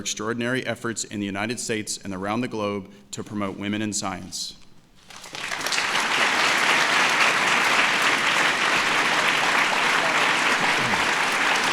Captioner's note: applause